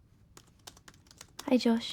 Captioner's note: laptop keyboard clicking